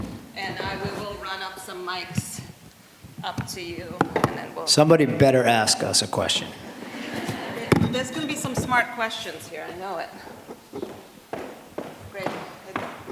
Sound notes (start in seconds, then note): 6.6 laughter